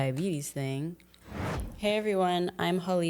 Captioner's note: transition whooshing